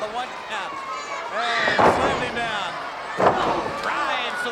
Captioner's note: body thudding